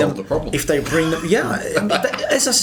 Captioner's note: laughs